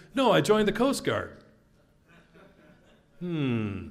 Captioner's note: laugh